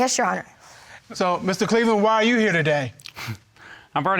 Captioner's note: chuckles